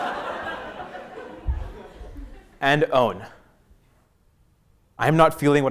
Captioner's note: laugh